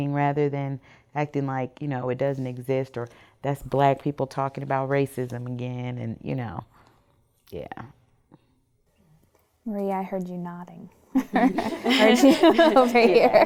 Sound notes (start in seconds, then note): 11.1 women laughing humorously